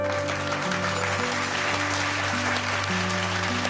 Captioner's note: applause